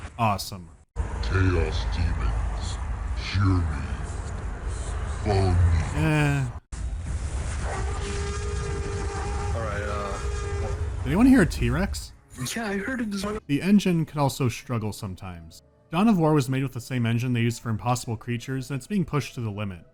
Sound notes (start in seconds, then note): 1.0 low-pitched, but kinda casual voice; 7.6 T-Rex roar